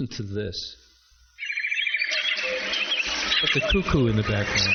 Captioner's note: animal sounds